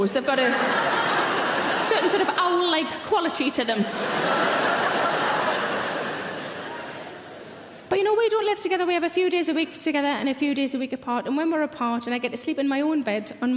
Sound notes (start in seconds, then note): 3.5 audience laughing loudly